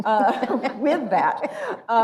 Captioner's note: laughs